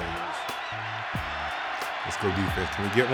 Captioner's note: fans cheering